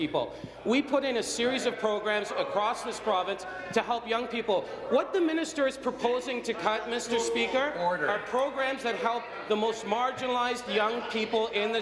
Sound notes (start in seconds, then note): none